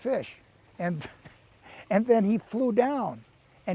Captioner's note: chuckles